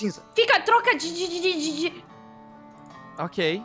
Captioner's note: stutters